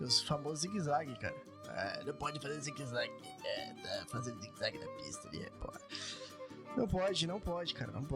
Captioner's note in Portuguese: risadas